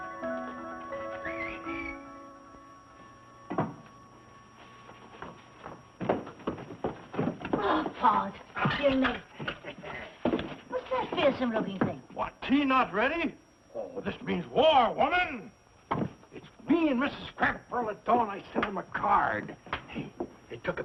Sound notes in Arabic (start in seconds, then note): 0.7 صافرة